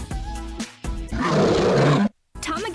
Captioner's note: arrughhhhhhh